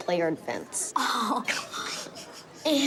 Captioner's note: gasps